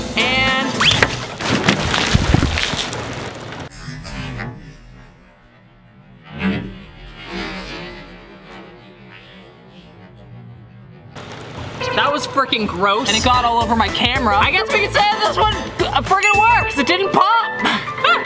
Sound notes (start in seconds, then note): 1.5 milk splashes